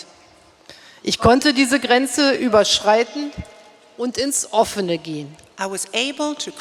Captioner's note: speaking in German